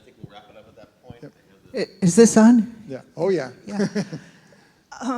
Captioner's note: laugh